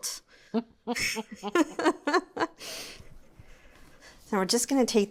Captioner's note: both chuckling